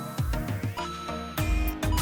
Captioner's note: ba ding!